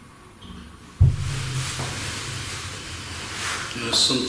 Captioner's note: bumping